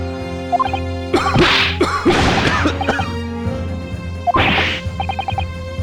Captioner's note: cough